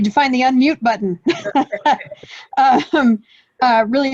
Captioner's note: laughs